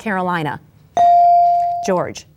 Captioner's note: bell dings